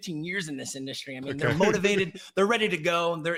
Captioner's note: laughs